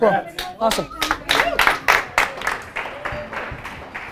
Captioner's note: group applause